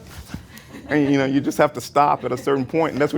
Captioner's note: laughter